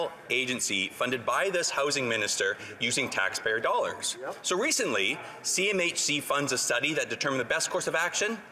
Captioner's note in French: voix de l'interprète